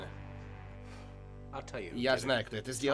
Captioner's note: blows